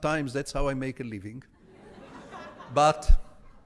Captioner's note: audience laughs